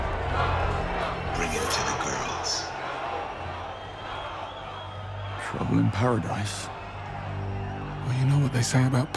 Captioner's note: cheering; cheering